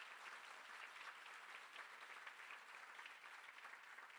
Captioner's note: more crowd applause